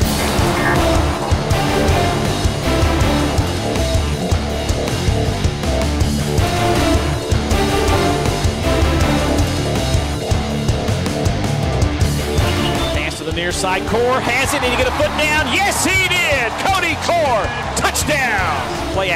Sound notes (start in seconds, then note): 0.1 powerful instrumental music; 13.2 voiceover